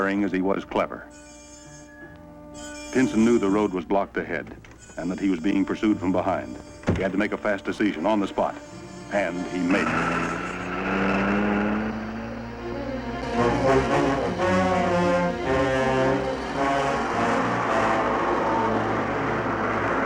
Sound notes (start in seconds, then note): 10.4 tires screeching; 13.6 menacing music